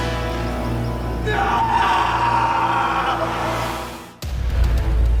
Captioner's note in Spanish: Grito